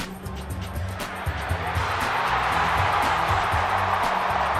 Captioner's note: cheering